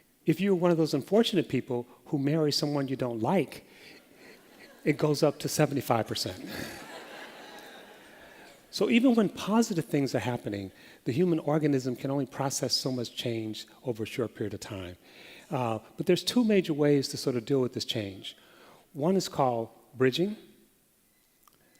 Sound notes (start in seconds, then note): 6.4 laughter